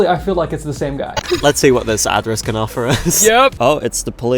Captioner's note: laughs